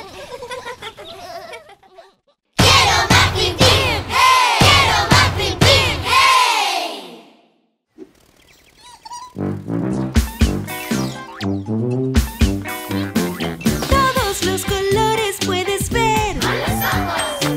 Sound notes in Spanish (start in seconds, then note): 0.0 Risas; 9.2 Sonido de pájaro; 9.4 Música Alegre